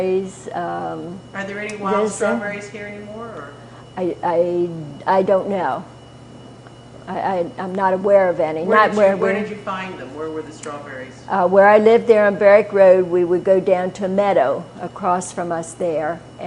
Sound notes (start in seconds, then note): none